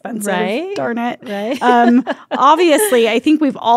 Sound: laughs

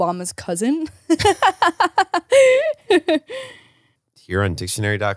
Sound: laughs

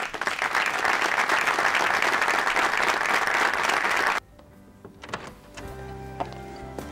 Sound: clapping

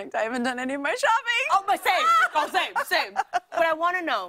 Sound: laughing

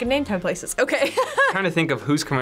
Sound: laughs

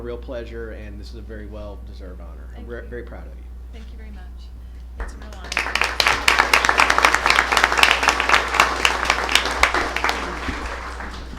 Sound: applause

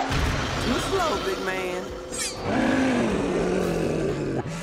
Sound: roaring

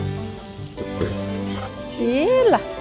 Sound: swallowing

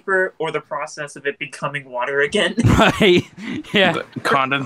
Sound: chuckles

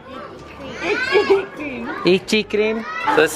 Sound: laughs

